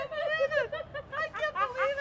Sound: laughter

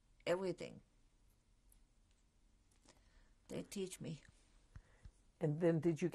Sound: pauses for 3 seconds

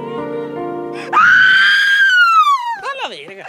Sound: even more screaming

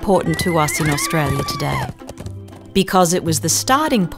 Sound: woman screaming as she's being carried off on horse

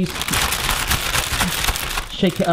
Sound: bag crinkling

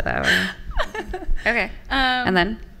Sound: laughing

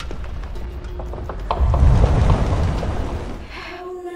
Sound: crackling fire; flames surging

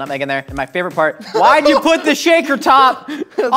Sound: laughs

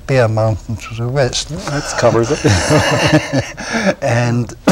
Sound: laughter

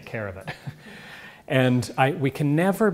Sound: laugh

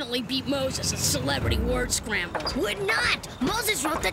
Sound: car dieseling

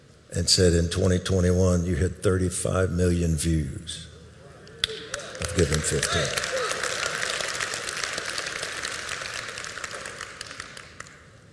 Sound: audience applauding

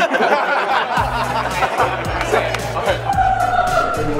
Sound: laughter

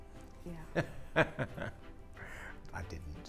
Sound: laughs

